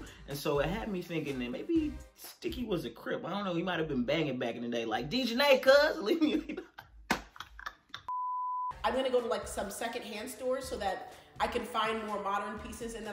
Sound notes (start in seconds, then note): 7.2 laughs; 8.1 beep